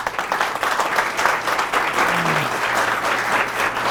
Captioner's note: audience applauding